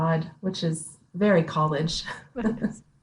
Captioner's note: chuckles